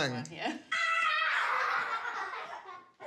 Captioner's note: roars, laughs